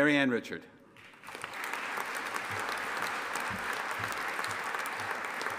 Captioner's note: audience applauding